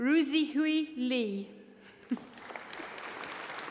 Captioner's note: applause